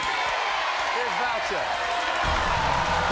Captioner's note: cheering and applauding